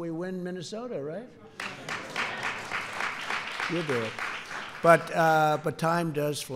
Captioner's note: applause